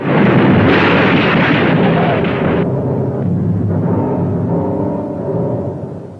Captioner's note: car crashing; ominous music